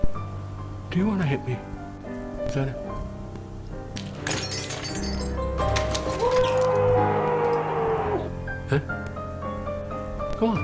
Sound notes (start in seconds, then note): 3.9 glass shattering; 6.2 screams